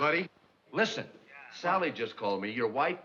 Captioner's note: on phone